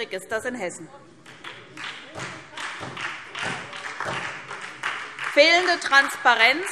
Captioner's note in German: Beifall SPD